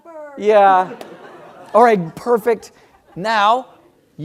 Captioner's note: laugh